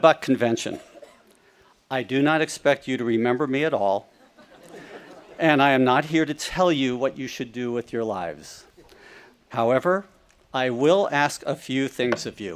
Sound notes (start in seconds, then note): 4.2 audience laughing